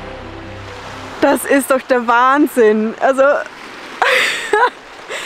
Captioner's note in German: Lachen